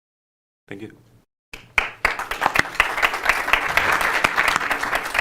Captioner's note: applause